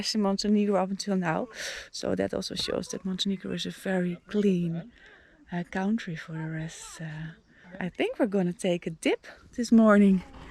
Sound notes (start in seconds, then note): none